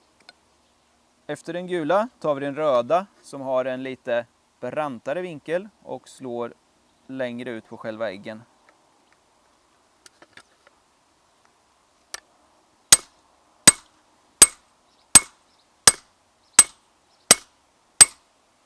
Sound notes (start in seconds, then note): 12.7 peening